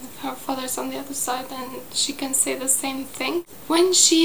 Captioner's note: in Italian